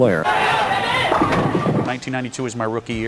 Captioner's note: pins knocking